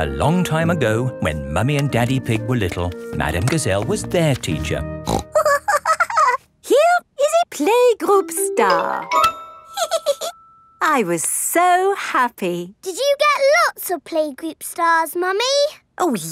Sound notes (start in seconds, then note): 5.1 snorts and giggles; 9.7 giggles